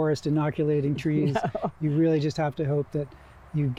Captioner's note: chuckling